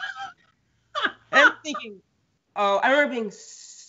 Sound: Brennan laughs

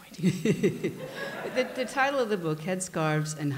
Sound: laughter

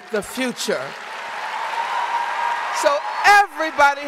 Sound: audience cheering and applauding

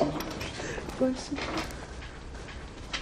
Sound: laughing

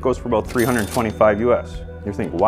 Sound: cash register clinks

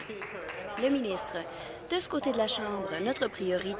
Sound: applause

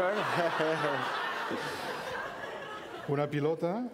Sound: laughter; speaking catalan

